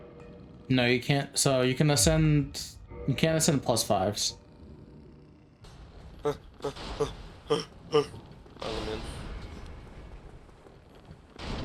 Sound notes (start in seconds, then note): 7.1 panting